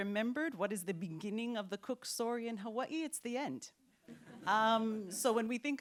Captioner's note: laughter